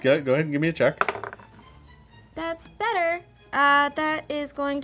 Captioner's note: dice roll